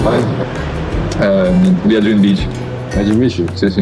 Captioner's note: speaking Italian